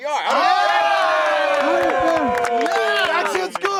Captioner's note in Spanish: aplausos